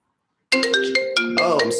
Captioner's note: ring tone